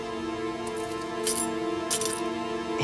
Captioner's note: keys jingle